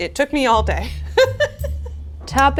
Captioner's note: laughs